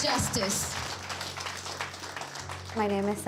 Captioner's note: applause